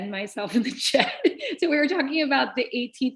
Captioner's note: laughter